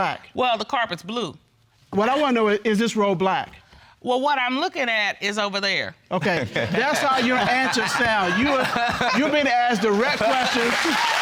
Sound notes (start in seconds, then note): 6.5 laughter